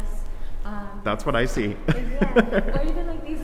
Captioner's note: laughs